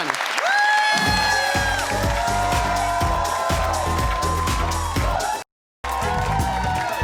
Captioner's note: audience cheers; upbeat music; audience cheers; upbeat tropical music